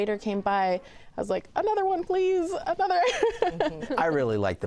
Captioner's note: laughs